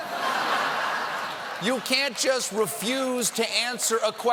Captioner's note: laughter